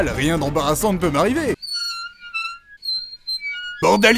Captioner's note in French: grincements